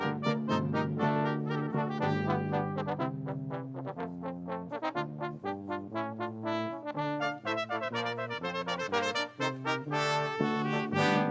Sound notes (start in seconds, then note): none